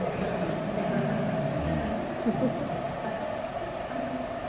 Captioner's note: crowd laughter